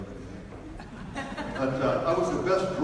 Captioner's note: audience laughs